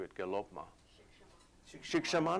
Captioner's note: non-english speech